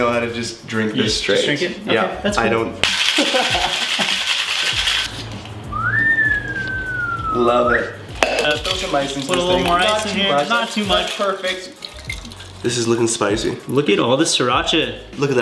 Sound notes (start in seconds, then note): 4.2 metallic clinking; 5.6 whistling